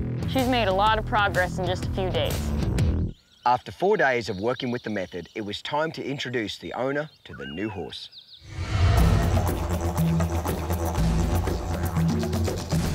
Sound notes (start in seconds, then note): 8.4 whoosh; 8.5 didgeridoo music